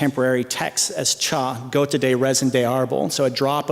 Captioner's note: non-english speech